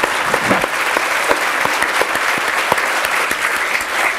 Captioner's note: applause